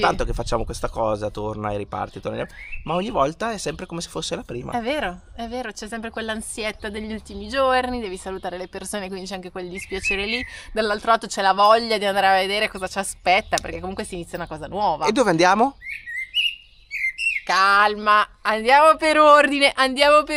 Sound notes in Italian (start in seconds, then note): none